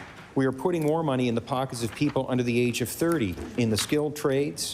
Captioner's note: applause